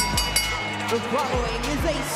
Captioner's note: bell rings